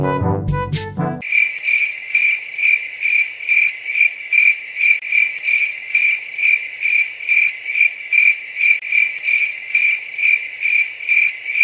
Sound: crickets crying

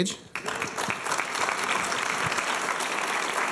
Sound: applause

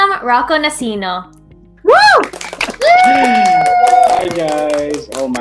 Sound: cheering

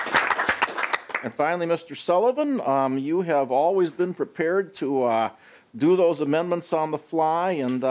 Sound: applause

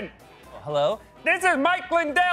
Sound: normal voice

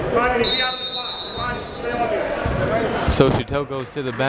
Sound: whistle blows

